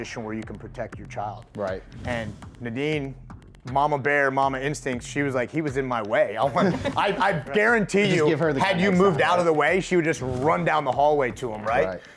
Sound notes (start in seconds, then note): 6.5 laughing